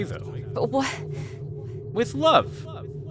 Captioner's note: stammers